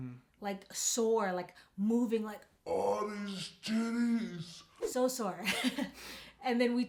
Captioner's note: laughs